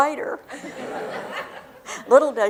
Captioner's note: laughter